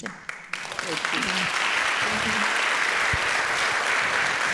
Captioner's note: audience applauding